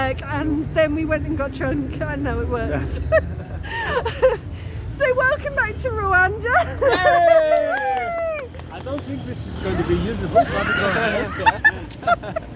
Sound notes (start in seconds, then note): 3.0 laughing; 6.9 cheering; 10.3 laughter